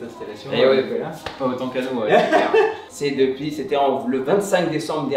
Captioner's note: laughs